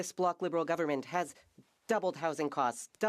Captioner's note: speaking French